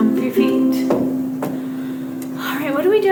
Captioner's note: feet stomping